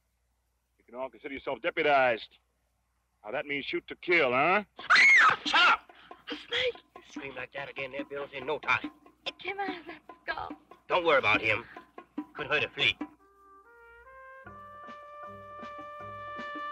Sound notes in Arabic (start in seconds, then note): 4.8 تصرخ; 14.2 موسيقى نشطة